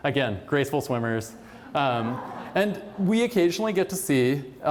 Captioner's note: laughter